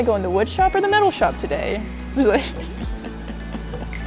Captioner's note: laughing